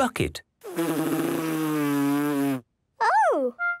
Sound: blows

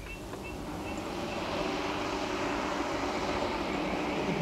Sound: car motor rumbling

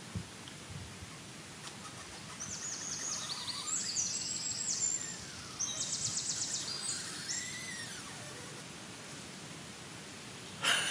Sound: tree sounds and bird song

